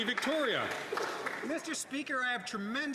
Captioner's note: some Applause